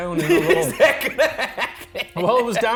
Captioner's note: laughing